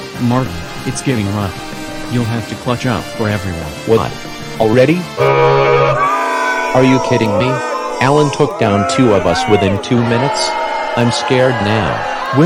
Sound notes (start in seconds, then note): 5.1 horn sound, audience booing